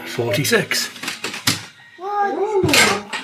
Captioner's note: door creaks